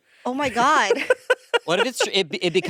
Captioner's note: laughing